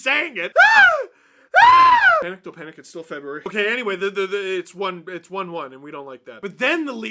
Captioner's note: screams a lil